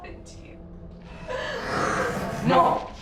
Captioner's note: Kilin groans